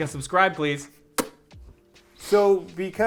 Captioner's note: mouth popping